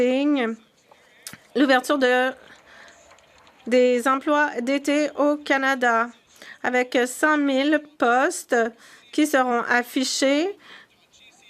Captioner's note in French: voix de l'interprète